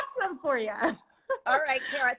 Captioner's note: laughs